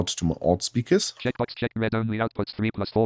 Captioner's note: automated voice